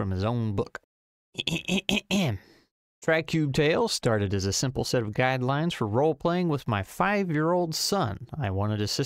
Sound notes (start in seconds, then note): 1.4 clears throat